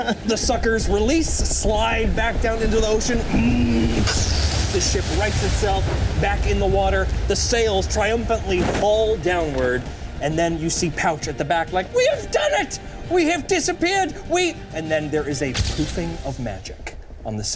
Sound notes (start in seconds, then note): 0.0 all laughing; 3.1 grunting